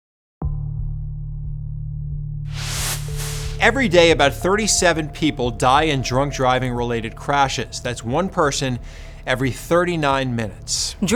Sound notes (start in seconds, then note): 0.7 air whooshes; 0.7 gentle music